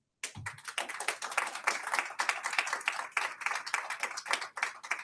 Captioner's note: audience applauds